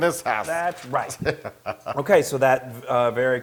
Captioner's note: laugh